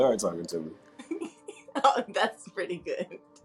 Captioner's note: laughs